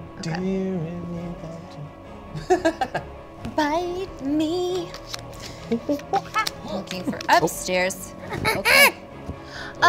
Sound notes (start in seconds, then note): 5.5 impersonates monkey; 8.5 impersonates monkey off-screen